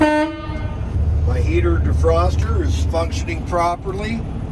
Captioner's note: horn honks